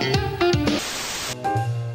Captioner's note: TV static